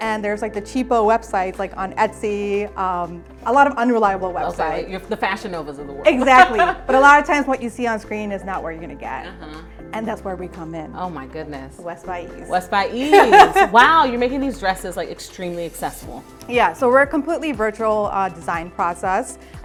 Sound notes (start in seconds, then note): 6.2 laughs; 13.0 laughs